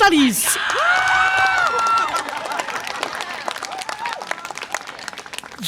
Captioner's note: audience applause and cheer